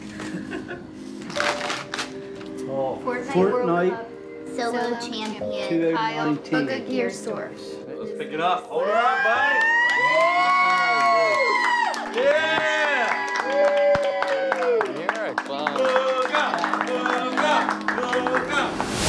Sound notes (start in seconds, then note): 0.1 laughing; 9.3 clapping, cheering